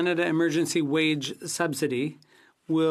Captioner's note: speaking FRENCH